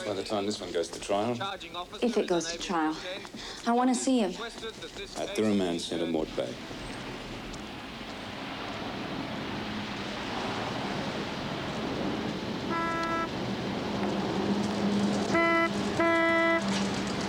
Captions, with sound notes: by the time this one goes to trial. - If it goes to trial. I want to see him. - At the remand center in Mort Bay. (car horn blaring)